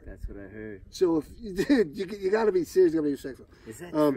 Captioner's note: laughs